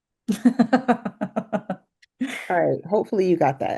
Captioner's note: laughs